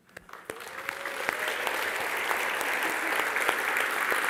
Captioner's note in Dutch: applaus